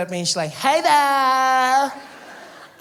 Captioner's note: surfer girl accent